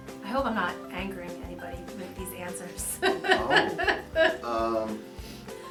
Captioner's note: laughs